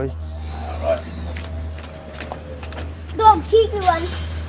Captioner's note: scuttling upstairs